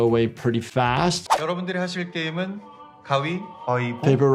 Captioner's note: recruiter speaking in Korean